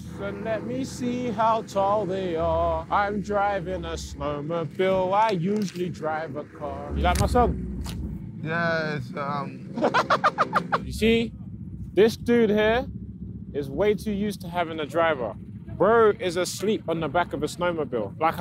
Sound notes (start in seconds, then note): 9.3 laughing